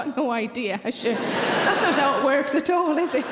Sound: audience laughing

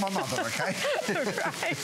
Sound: laughter

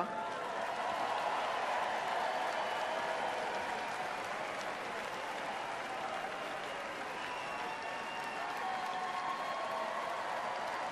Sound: applause

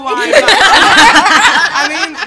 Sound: laughter

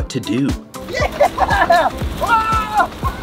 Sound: laughs

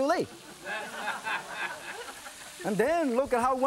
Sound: audience laughing

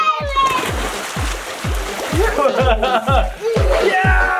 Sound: water splashing

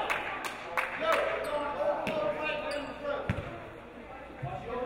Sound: audience applauding

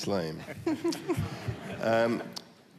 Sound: laughter

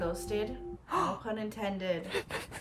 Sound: gasps

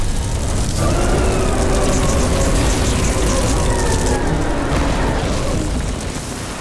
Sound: roaring

